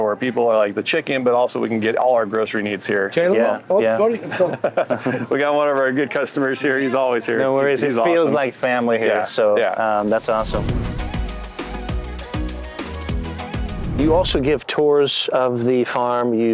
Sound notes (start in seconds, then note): 4.2 laughs; 10.0 upbeat music